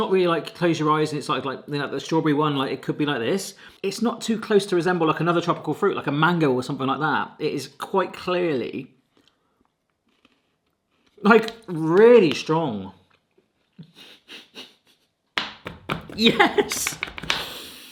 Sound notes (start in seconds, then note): 13.8 laughing; 15.4 hands slapping